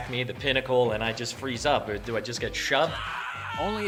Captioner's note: male screaming